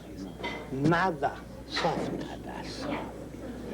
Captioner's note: slowly and softly enunciates